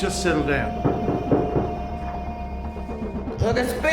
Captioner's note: knocking on door